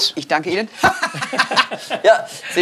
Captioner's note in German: lachend